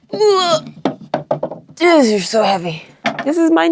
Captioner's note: person grunting